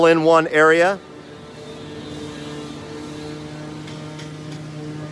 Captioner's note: machine buzzing